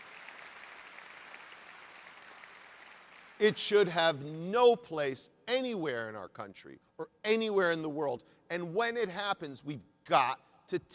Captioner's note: applause